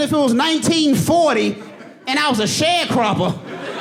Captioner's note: audience laughing